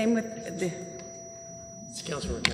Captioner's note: microphone feedback